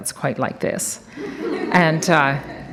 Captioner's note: audience laughs